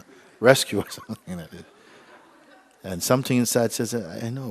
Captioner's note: laughter